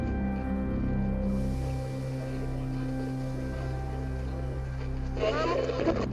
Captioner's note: distorted feedback echoing; static crackling